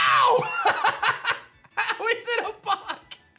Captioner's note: laughs